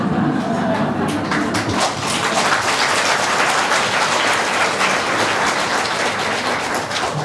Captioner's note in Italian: Applausi